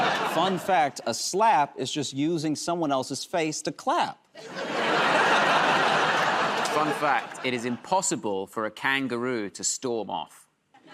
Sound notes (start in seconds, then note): 4.4 laughter